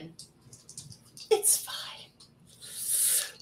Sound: dice shaking and rolling

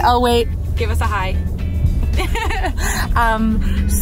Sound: laughs

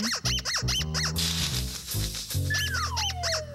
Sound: squeaking

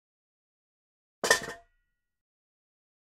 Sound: sound of kitchen

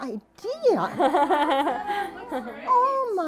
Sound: laughing

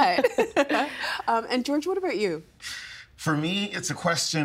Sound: laughing

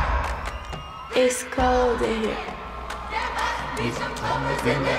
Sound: rhythmic clapping; cheers along

